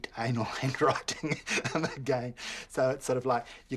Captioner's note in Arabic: يضحك